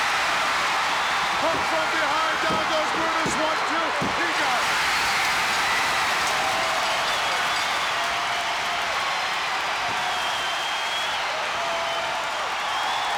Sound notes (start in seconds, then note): 0.1 crowd cheers; 5.6 bell rings; 5.6 crowd cheers